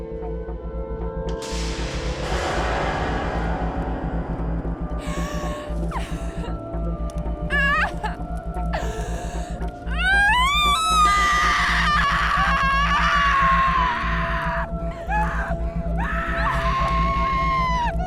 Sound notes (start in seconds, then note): 6.4 Esmerelda sobbing; 9.9 women screaming